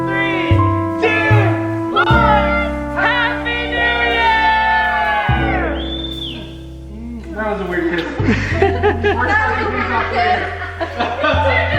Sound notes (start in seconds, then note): 5.7 whistling; 7.6 laughing